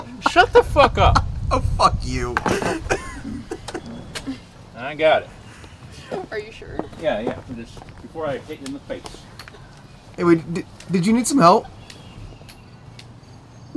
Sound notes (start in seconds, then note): 4.2 riendo